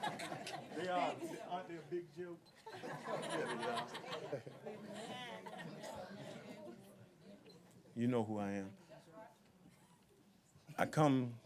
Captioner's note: laughter